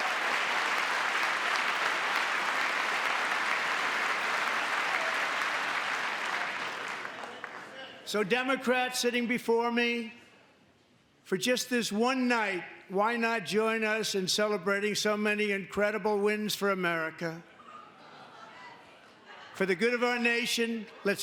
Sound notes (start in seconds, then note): 2.3 cheering; 4.0 applause